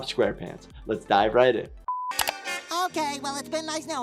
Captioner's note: beep